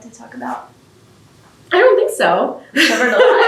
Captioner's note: laughs